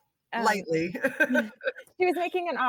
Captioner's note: laughing